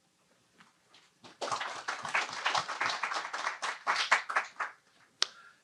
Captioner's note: applause